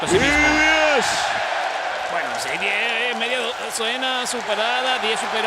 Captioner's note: applause